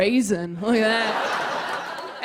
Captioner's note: laughter